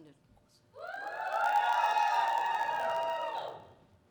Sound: cheering

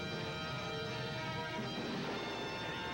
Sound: gunshot

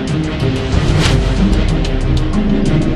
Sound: sparks woosh

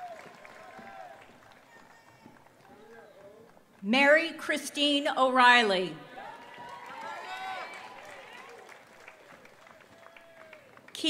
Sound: applause

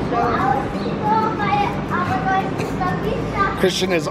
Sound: little boy babbles

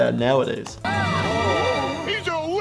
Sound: mysterious music; incredulous gasping

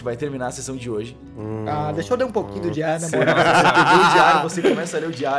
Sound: laughs

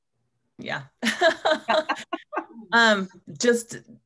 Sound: laughs

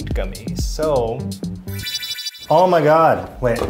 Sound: magical zapping noises

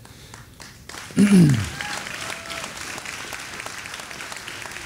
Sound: audience applauding

